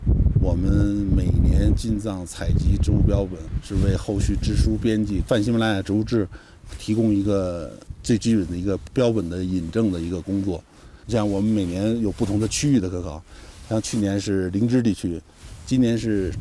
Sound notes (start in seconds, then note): 0.2 speaking in foreign language